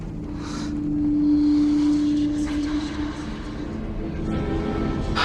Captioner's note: voices whispering